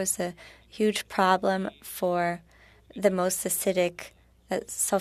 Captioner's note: speaking French